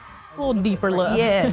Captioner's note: laughing